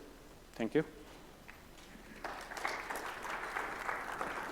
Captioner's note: crowd applauding